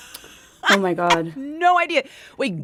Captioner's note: laughter